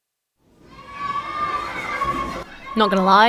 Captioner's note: children shouting